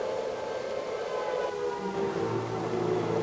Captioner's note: air siren blaring